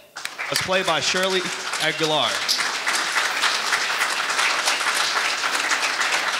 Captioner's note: audience applauding